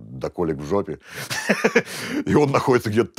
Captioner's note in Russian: смеется